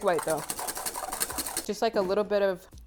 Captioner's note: whipping